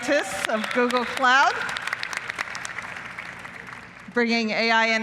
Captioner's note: applause